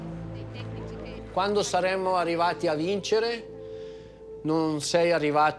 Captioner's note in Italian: parla in italiano